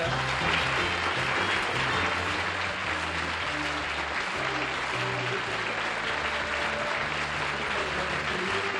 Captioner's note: applause